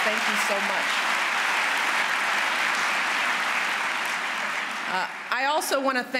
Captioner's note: applause